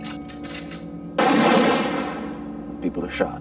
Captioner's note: rifles clicking; gunshots blasting